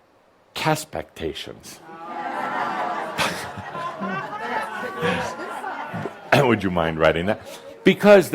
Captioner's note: audience responds with groans and laughter